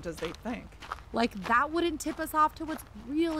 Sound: they walk on gravel

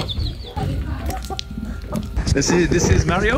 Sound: chicken clucking; chicks peeping

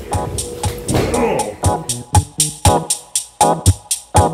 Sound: mutters

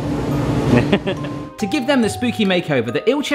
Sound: laughing

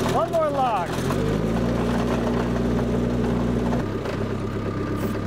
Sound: motor continues rumbling

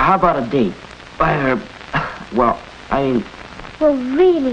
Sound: coughs

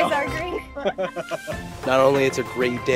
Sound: both laughing

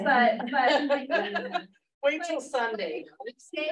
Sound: laughs

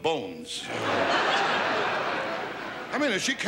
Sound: audience laughs

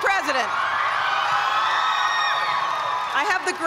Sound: cheers and applause

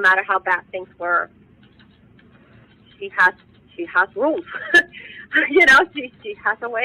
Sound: giggles

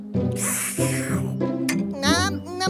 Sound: drinking

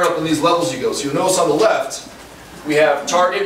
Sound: none

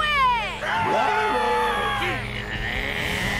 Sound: all cheer; grunting

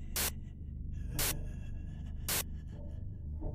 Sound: breathing sounds

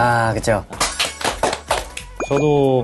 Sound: round of applause

